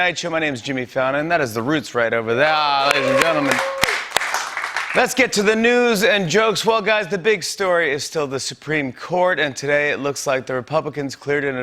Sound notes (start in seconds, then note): 2.4 cheers and applause